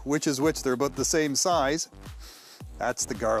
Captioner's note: sniffs